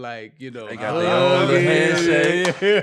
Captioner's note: laughing